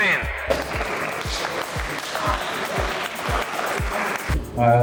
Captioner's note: applause